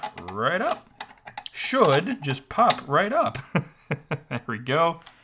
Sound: laughs

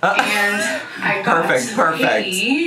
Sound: laughing

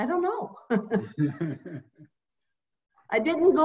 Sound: laughs

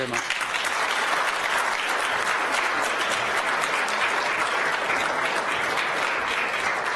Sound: applause

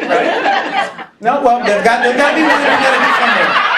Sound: laughing

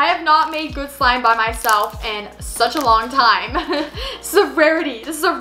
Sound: laughs

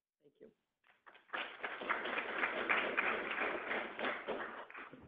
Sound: audience clapping

